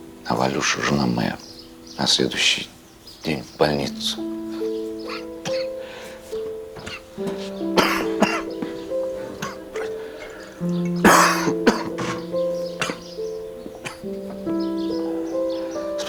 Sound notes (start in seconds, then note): 5.4 coughs; 8.9 sad music